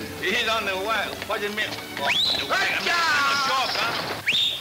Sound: whistling; yelling at horses; pensive orchestra music

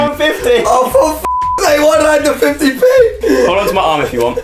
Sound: beep

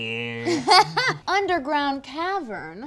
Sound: laughter

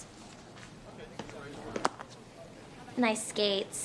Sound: light tapping

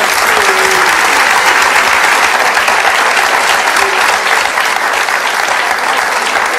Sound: audience claps

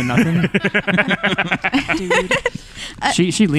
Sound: laughter

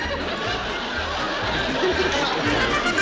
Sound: laughs

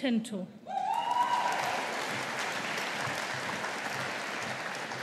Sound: audience applauding

